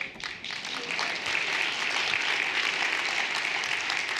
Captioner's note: everyone applauding